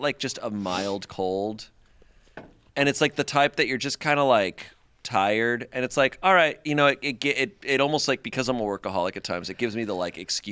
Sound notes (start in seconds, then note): none